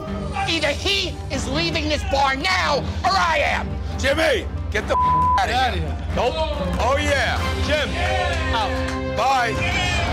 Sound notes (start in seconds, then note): 4.9 beep